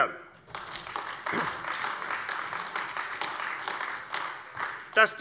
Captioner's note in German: Beifall AfD